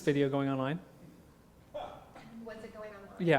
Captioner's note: laugh